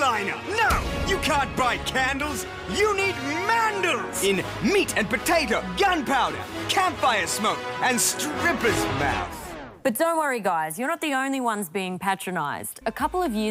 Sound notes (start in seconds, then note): none